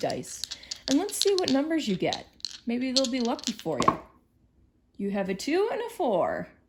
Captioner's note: rolls dice